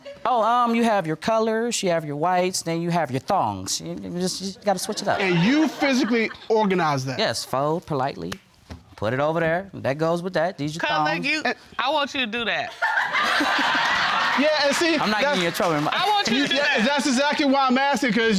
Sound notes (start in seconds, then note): 12.8 all laughing